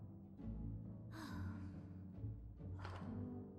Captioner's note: sighs